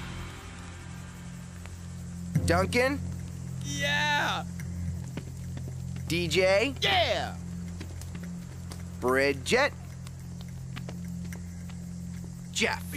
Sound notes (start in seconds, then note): none